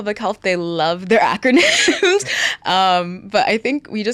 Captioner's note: laughs